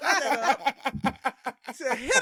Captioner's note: laughing